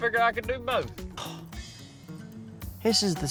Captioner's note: scoffs